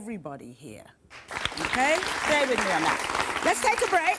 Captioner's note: applause